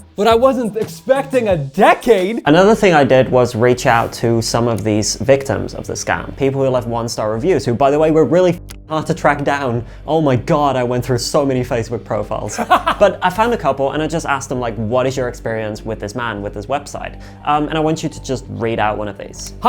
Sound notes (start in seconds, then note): 12.5 laughing